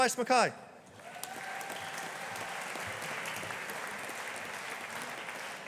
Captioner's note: audience applauding